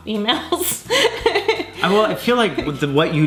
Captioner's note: laughing